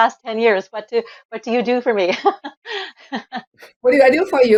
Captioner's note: laughs